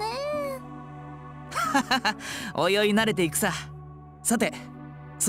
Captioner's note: laugh